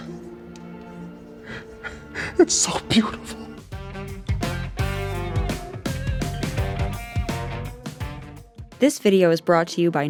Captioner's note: crying